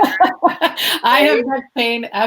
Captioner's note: laughs loudly